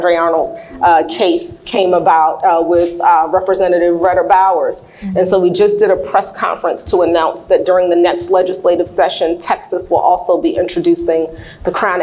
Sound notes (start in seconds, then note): none